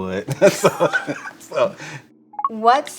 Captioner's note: laughing